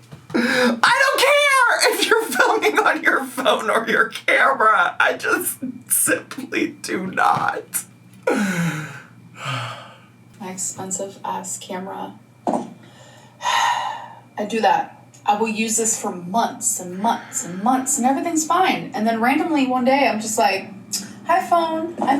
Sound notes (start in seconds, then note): 13.6 sighs